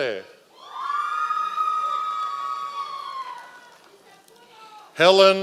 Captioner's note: members of the audience cheering